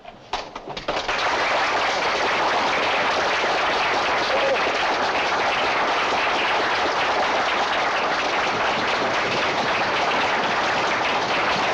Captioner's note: applause